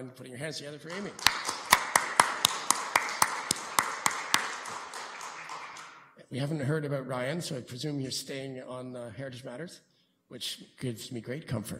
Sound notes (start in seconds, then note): 2.7 applause